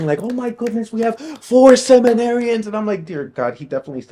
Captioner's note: hands clapping